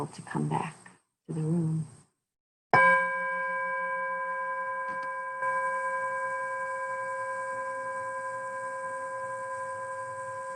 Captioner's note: bell Rings